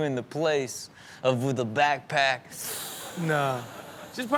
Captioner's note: mimics sharp inhaling